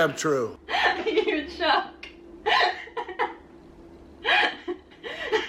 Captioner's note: laughter